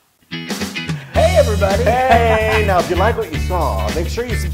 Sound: laugh

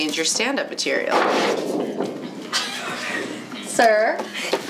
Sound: loud bang

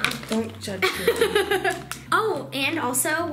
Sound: laughing

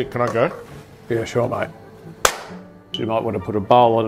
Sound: claps

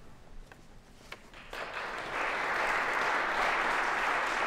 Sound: applause

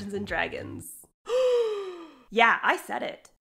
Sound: gasps

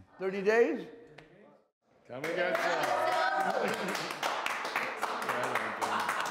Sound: cheering and clapping

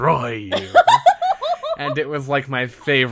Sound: laughs

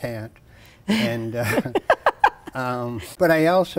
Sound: laughs

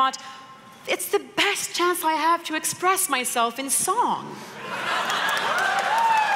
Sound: laughter & applause

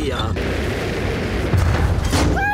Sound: thuds

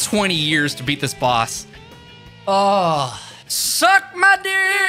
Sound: sigh of relief

